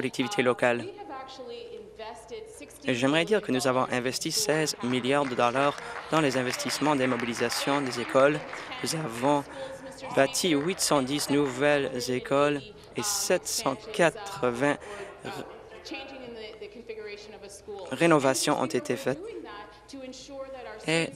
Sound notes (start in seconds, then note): 11.5 applause